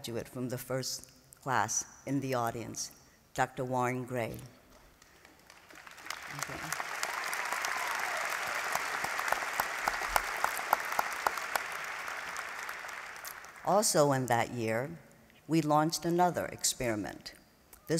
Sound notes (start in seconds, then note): 5.0 applause